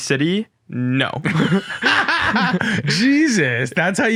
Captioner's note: both laughing